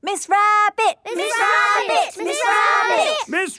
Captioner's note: all chanting